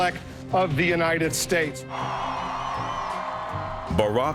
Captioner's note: audience cheering; audience applauding